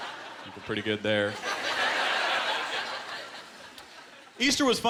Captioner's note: laughter